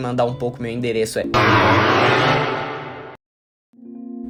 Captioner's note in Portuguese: Barulhos de deltarune